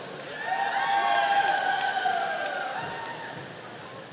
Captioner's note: audience cheering